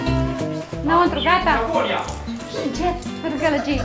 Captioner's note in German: sprechen polnisch